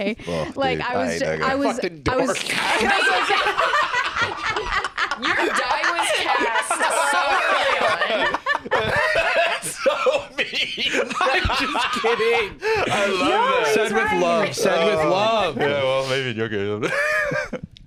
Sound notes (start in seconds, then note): 3.3 all cackling hysterically; 9.1 laughing